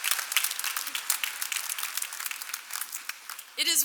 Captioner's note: cheers and applause